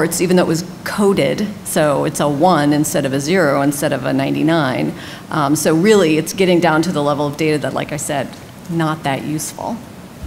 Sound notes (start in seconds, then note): none